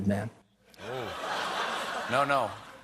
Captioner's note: laughter